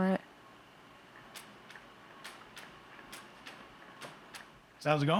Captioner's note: ropes patting ground rhythmically